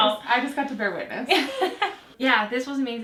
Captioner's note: laughing; laughing